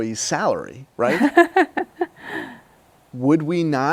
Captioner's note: laughs